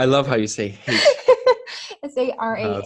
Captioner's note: giggles